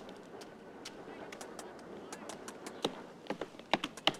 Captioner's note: tapping